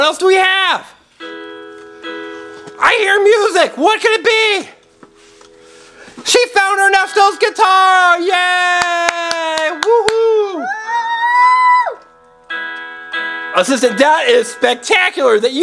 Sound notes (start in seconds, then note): 1.2 guitar music; 8.7 clapping